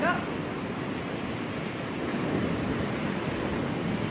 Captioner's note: waves crashing